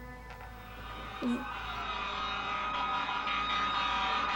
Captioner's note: sirens blaring